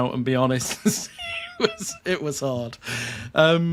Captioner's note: chuckles